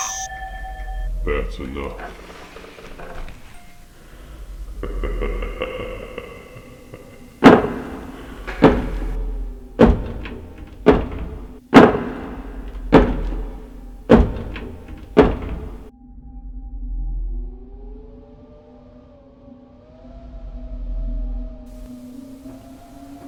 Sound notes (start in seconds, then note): 7.1 footsteps; 7.1 ominous music; 7.1 wind blowing